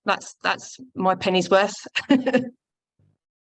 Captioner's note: chuckles